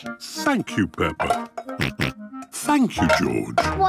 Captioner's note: snorts